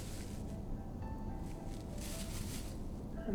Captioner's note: rustling bag